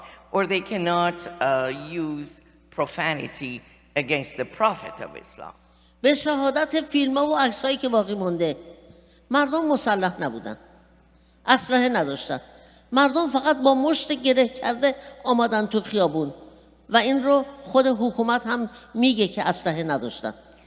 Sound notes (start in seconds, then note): 5.8 speaking persian